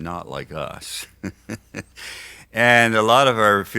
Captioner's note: laughs